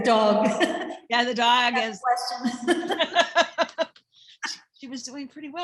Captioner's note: laughs